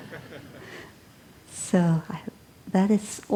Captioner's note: laughter